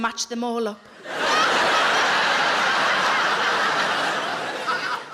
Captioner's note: audience laughing